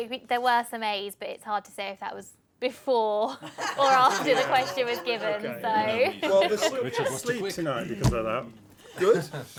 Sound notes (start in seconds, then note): 5.2 laughter